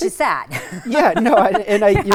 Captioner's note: laughs